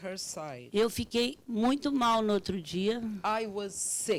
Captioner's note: speaking Portuguese